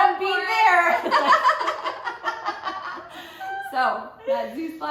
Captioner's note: laughter